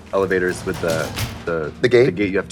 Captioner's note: metal gate rattling